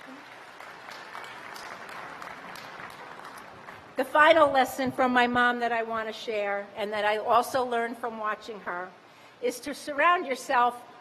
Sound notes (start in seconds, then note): 1.7 applause